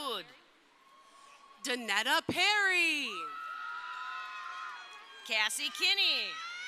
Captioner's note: crowd cheering